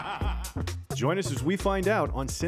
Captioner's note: laughing crazily